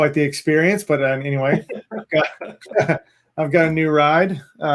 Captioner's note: laughing